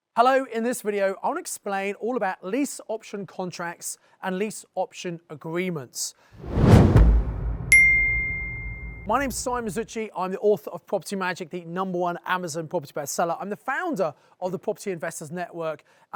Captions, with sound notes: - Hello, in this video I want to explain all about lease option contracts and lease option agreements. (logo whooshing) (bell ringing) My name's Simon Zutshi, I'm the author of "Property Magic," the number one Amazon property best seller. I'm the founder of the Property Investors Network,